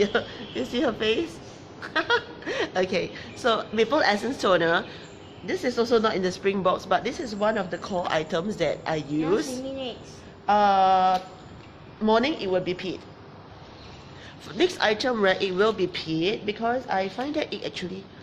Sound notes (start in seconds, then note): 1.8 laughs